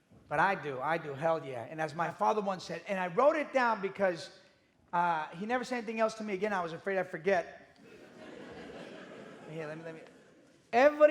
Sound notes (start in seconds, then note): 7.8 audience laughing